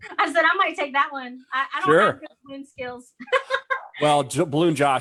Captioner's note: laughs